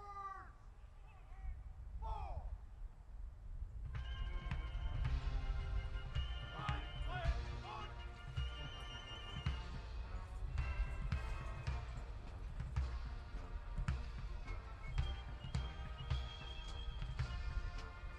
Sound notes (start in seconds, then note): 1.2 lively patriotic music; 3.8 soldiers continues shouting commands